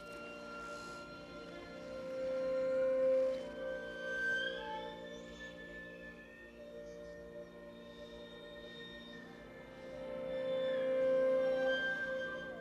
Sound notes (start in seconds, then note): 0.1 gentle music; 6.7 birds chirping; 9.8 gentle music